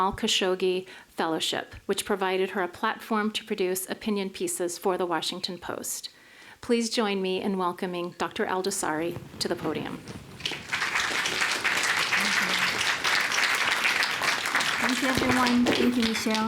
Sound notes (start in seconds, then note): 9.9 applause